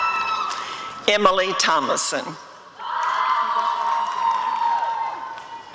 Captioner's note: applause and cheering